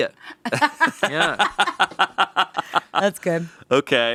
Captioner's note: laughing